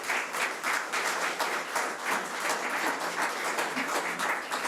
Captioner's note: audience applause